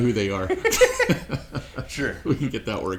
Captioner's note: laughs